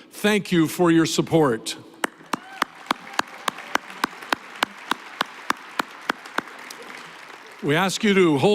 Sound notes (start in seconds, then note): 2.0 applause